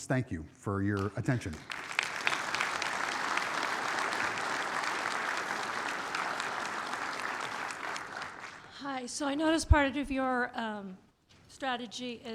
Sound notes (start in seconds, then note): 0.8 audience clapping